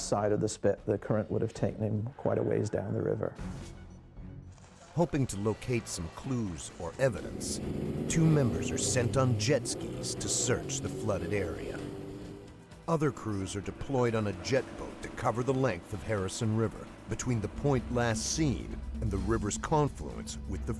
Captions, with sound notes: On the western side flows the main channel of the Harrison river. Which conceals a strong current under its calm surface. - If he had fallen in on the west side of the spit, the current would've taken him quite a ways down the river. - [Voiceover] Hoping to locate some clues or evidence two members are sent on jet-skis to search